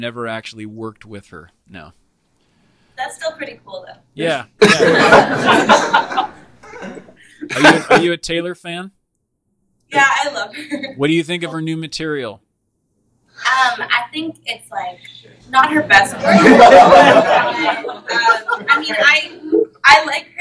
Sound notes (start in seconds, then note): 4.6 laughing; 16.0 laughing